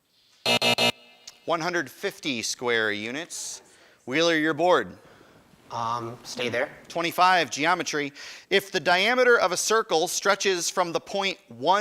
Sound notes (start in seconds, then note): 0.4 buzzer